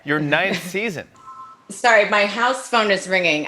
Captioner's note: telephone rings